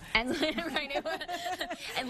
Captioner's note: chuckling